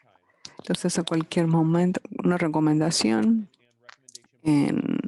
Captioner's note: speaking in foreign language